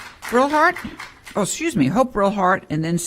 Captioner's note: applause